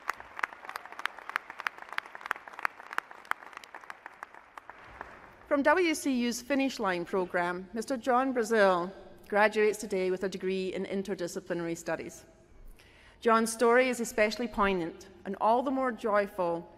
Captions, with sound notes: student we are proud to call alumnus of Western Carolina University. Congratulations, Seth. >>: [Applause.] >>: From WCU finish line program Mr. John Brazil graduates today with a degree in interdisciplinary studies.